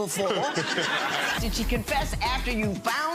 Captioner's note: audience laughs